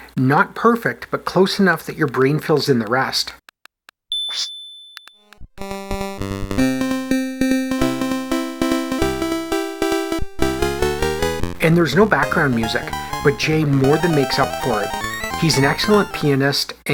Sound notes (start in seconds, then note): 4.1 typewriter bell